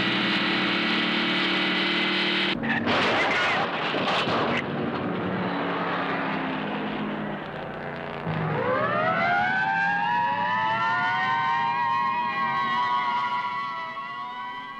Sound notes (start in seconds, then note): 3.1 car thudding; 8.6 sirens blaring